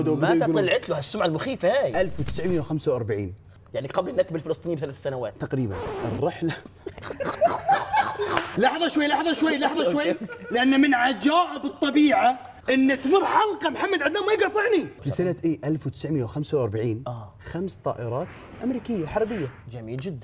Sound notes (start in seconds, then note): 6.8 laughing